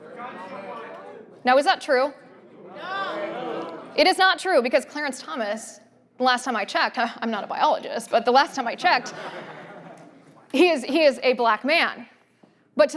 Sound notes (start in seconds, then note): 8.8 audience laughter